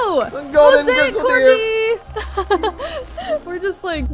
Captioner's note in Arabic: يضحك